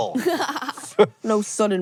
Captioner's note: laughs